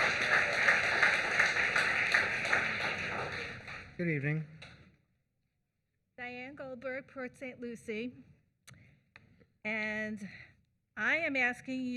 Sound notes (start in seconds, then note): 4.5 applause